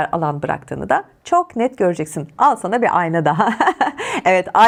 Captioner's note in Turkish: kahkaha